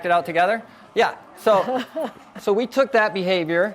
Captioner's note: laughs